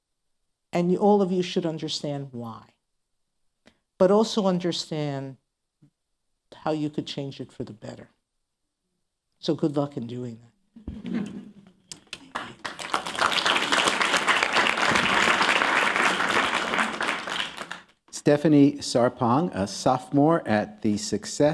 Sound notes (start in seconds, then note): 7.3 laughter and applause